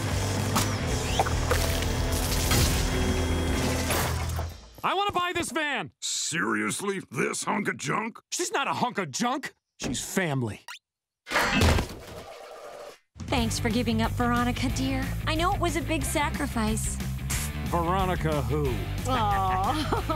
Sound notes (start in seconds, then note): 16.7 scoffs; 19.1 laughing